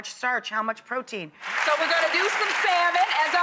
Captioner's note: audience claps